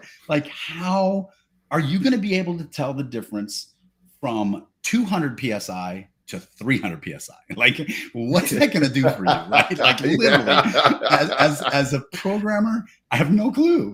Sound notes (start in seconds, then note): 10.9 laughs